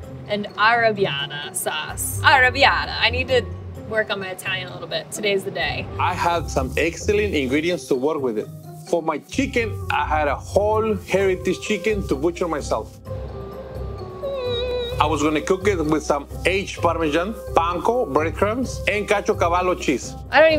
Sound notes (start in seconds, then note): 14.0 squeaking excitedly